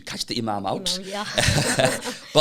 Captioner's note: laughing